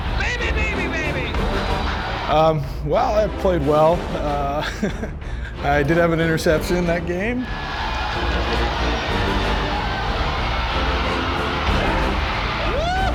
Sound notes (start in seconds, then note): 0.0 cheering and clapping; 4.6 chuckling; 7.4 crowd cheering